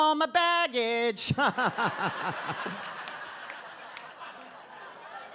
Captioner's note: audience laughs